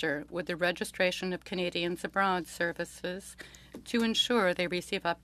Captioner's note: speaking French